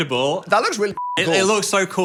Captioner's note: beep